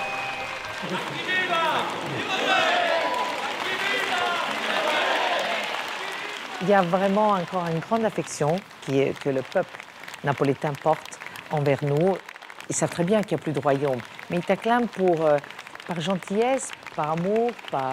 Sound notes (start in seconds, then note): 1.7 applause